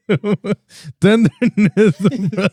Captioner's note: laughing